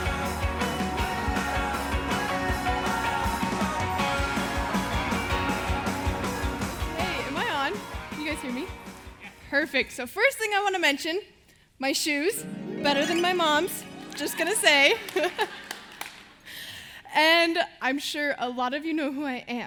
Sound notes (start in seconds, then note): 15.6 laughing